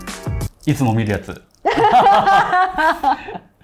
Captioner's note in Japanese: 笑い